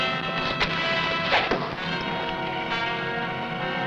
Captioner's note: arrow whooshing; tense music